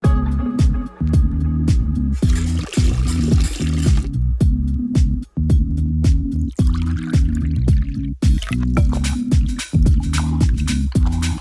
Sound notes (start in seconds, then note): 0.0 subtle pop music; 2.2 milk gurgling; 4.4 gentle pop music; 6.4 vanilla pouring; 8.4 spoon stirring